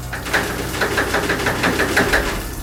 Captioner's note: door rattling